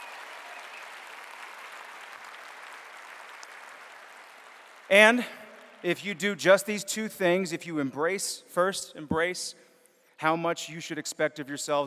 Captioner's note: applause